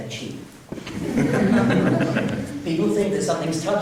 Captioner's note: laughing